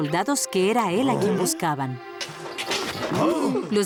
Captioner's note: grunts